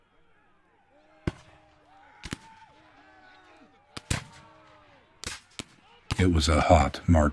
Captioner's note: muskets firing